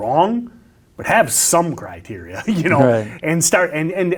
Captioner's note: laughs